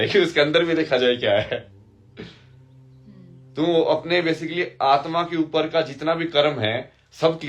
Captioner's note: हंसी